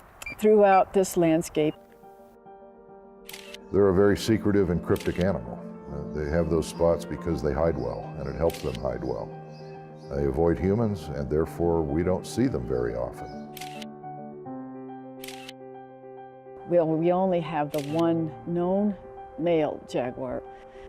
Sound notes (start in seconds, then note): 2.5 dramatic music; 13.5 camera clicking; 15.0 dramatic music